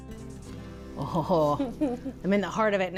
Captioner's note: chuckles